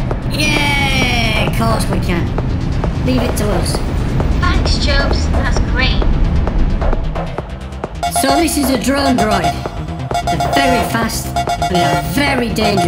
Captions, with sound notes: Yeah! Course we can! Leave it to us! "Thanks, Chubz. That's great!" So this is a Drone Droid. [Drone bleep noises] They're very fast, they're very dangerous. [Drone bleep noises]